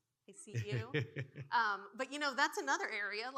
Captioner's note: laughing